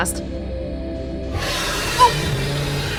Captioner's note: anglerfish roar